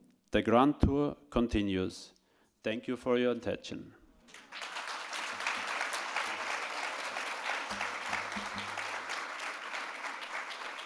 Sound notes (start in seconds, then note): 4.3 audience applauding